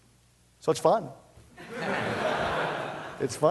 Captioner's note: laughter